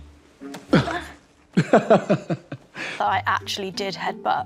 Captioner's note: John laughing